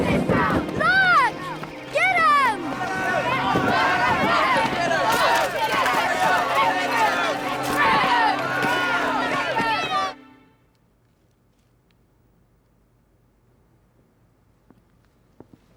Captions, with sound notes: - Look, get him. (kids yelling)